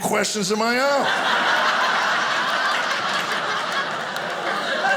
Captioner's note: audience laughing